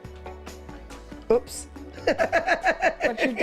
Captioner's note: laughs